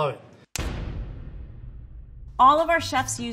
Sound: pounding

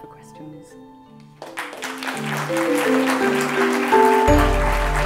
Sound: applause and music

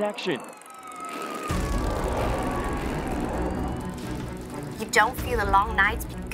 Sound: sirens wailing; dramatic music

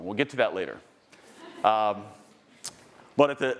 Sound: attendee laughing

